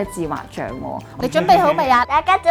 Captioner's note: laughing